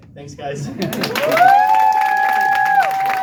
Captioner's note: audience Cheers